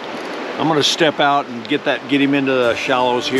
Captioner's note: water flowing